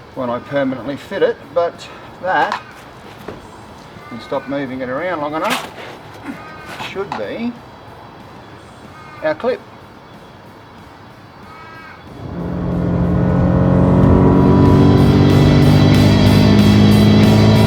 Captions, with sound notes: when I permanently fit it, but that, if I stopped moving it around long enough, should be our clip. (engine roars) (rock music)